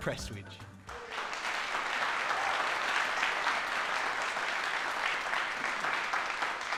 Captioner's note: applause